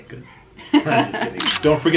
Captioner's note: both laugh